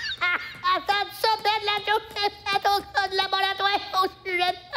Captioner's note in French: voix nasillarde